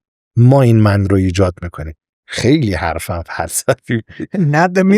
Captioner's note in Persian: خنده